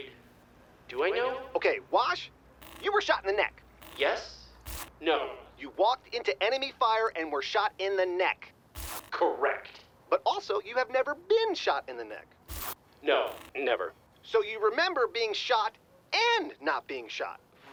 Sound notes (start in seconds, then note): 4.5 glitching; 8.7 glitching; 12.4 glitching